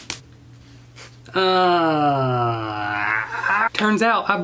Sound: groans

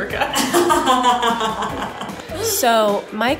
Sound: laughing

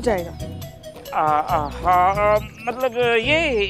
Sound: stuttering

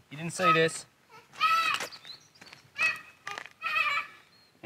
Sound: shouting

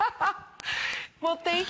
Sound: laughter

